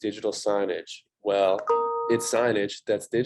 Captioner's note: computer tone